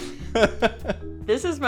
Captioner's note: laughs